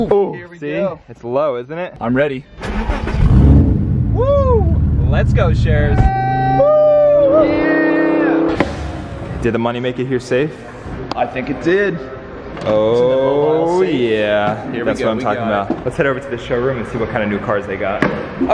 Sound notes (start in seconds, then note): 2.6 engine revving; 5.8 both yelling excitedly; 7.8 engine accelerating rapidly